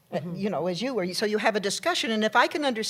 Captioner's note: none